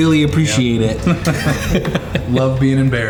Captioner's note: everyone laughing